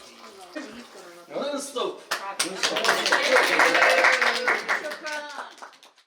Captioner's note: applause